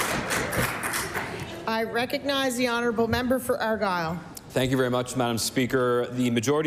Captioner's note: applause